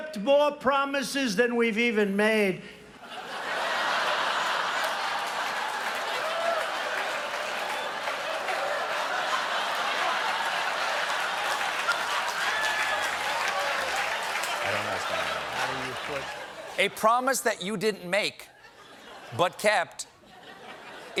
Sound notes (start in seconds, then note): 3.0 laughter; 3.9 applause